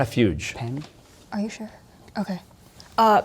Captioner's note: whispering